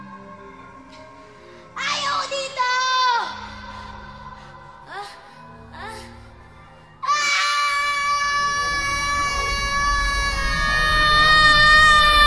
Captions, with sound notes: I don't want to be here! [panting continues] [screaming]